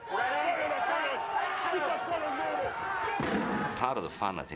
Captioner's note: indistinct shouting; gunshots firing